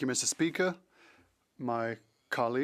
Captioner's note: speaking French